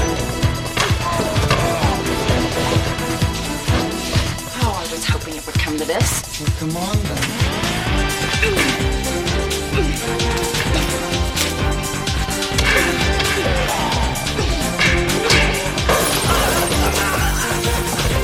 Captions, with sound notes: (groaning) - Oh, I was hoping it would come to this. - Well, come on then. (groaning) Ahh!